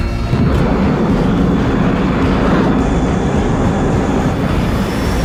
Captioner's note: jet engines roaring